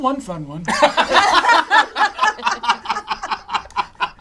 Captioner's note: all laugh